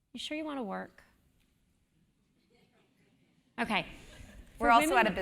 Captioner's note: laugh